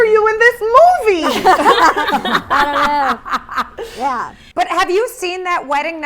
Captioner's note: all laughing